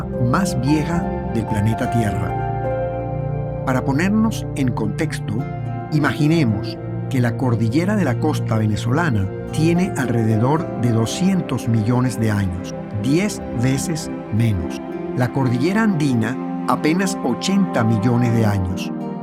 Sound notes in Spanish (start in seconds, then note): none